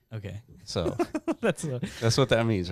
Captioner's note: laughing